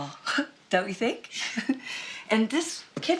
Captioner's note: chuckles